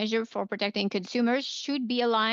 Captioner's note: speaking in French